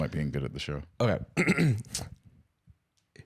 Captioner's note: clears throat